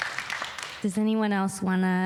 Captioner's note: applause